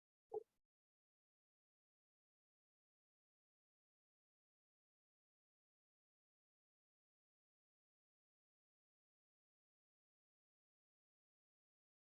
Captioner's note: silence for 5 minutes of question preparation and reflection